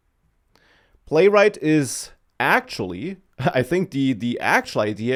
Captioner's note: laughs